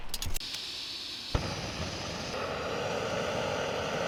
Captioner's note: gas roaring